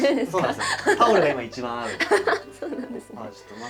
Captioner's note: laughs